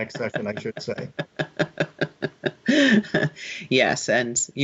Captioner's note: laughing